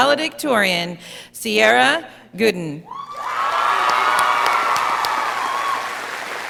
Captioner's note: audience cheering